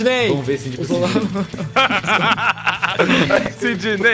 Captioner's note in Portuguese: Risadas